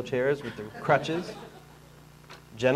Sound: audience laughing

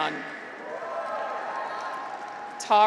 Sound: graduates cheer

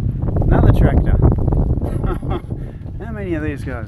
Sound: laughing

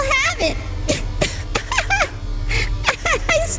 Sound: laughs weakly

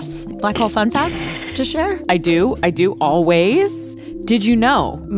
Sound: laughs

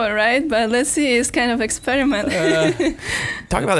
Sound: laughing

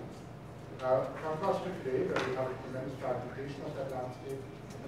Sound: clapping drowns out speaking

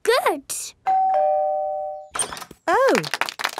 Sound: doorbell ringing; crowd applauding

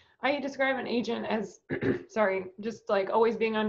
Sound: clears throat

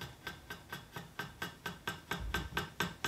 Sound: knock

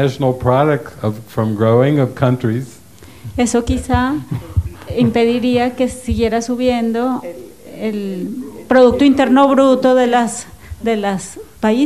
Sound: laughs

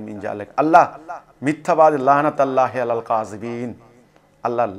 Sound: Arabic

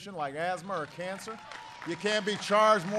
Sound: applause

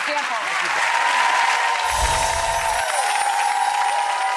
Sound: audience applause

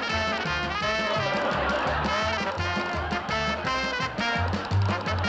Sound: laughter

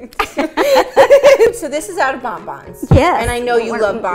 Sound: laughing

